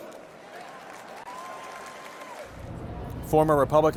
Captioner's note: applause